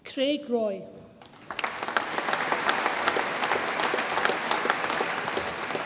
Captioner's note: audience applauds